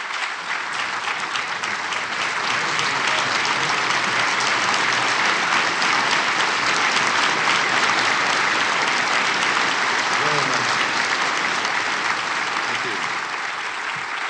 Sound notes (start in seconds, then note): 7.9 applause